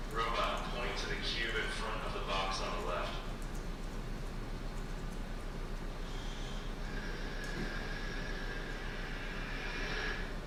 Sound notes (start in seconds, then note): 6.0 whirring